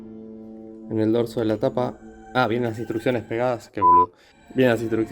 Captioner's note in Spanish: beep